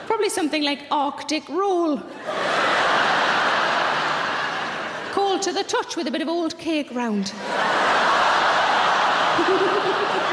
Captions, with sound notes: Probably something like Arctic Roll. (audience laughing) Cold to the touch with a bit of old cake round. (audience laughing)